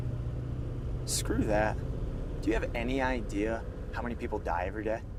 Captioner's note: car engine revving